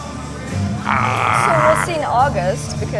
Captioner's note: frustrated yell